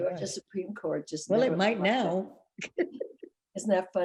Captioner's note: laughing